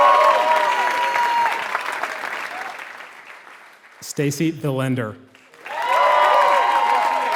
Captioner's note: applause; applause